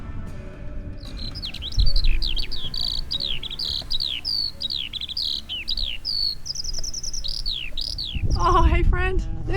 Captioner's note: cute birdy and a cuckoo